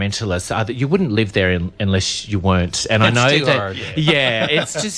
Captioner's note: laughs